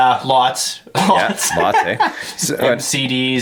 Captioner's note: laughing